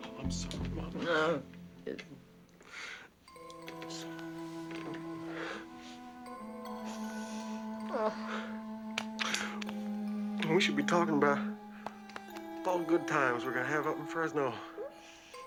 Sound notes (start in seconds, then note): 1.2 grunts; 2.7 sobbing